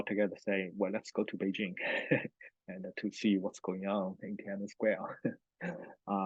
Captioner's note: laughs